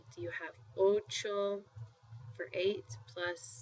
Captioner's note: spanish